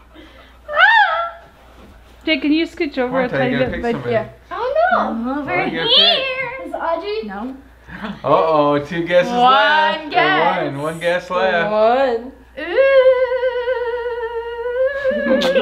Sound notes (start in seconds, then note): 0.7 squealing; 12.6 ghostly wailing